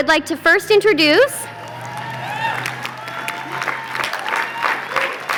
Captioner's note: applause